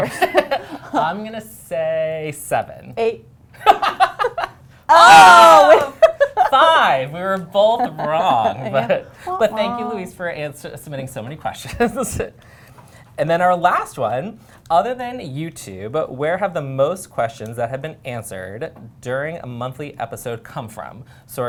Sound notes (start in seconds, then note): 0.0 laughter; 3.6 laughter